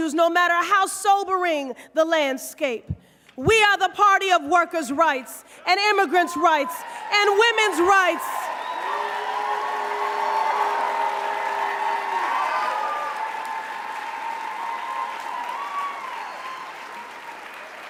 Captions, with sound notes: NO MATTER HOW SOBERING THE LANDSCAPE. WE ARE THE PARTY OF WORKER'S RIGHTS, AND IMMIGRANT'S RIGHTS, AND WOMEN'S RIGHTS, [CROWD CHEERS]